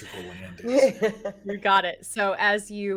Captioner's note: laughs